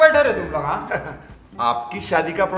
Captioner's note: Ha Ha